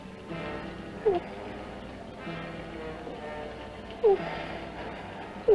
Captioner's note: whimpering